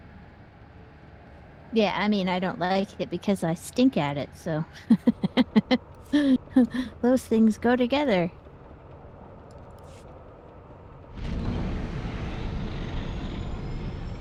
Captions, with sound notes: - Yeah, I mean, I don't like it because I stink at it, so. (laughs) Those things go together. (air whooshing)